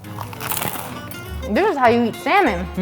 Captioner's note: crunch